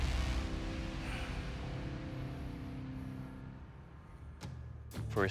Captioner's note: sighs